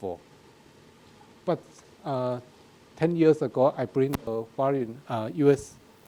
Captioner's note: speaking in a foreign language